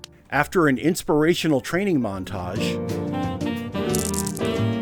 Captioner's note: sounds of marbles clacking